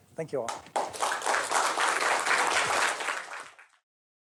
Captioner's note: applause